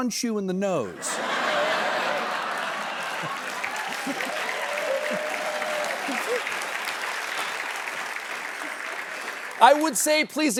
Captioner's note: laughter and applause